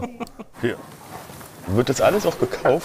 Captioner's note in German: Sie lacht